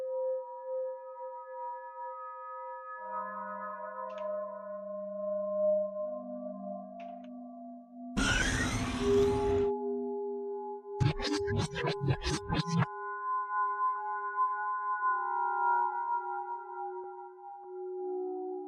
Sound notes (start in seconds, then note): 11.0 distorted creature noises